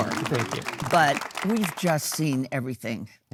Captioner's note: audience applauding